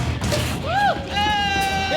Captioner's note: cheering